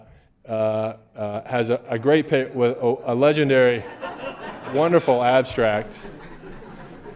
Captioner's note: laughter